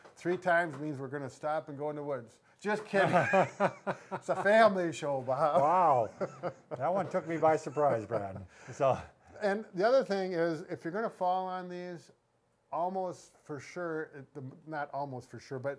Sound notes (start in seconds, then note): 3.0 laughs